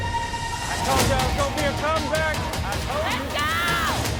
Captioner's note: crowd cheering